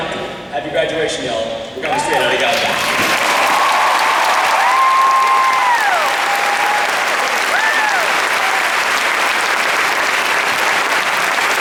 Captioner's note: applause and cheers